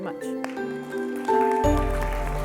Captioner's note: applause